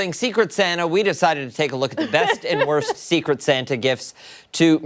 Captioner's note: laughter